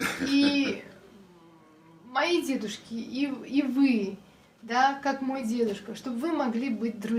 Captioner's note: foreign language